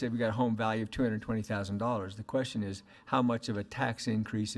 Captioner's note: none